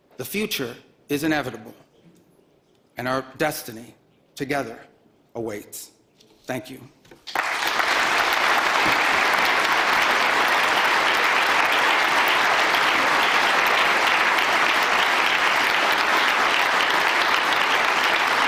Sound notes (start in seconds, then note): 7.2 applause